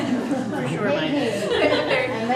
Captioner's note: laughter